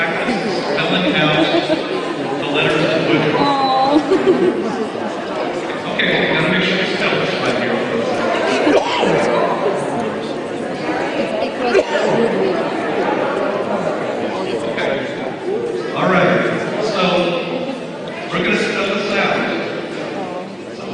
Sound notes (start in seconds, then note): 3.4 laughing